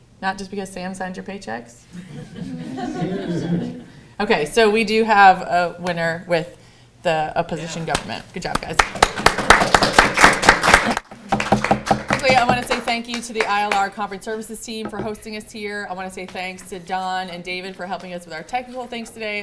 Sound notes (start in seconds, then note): 1.9 laughter; 8.5 applause